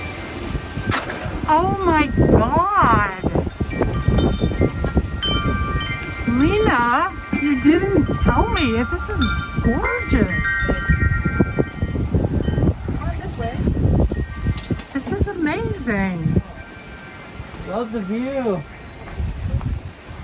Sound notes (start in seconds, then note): 3.4 bell chimes; 3.4 wind whooshing; 12.3 bell chimes; 12.3 wind whooshing